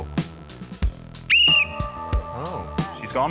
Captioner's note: blows whistle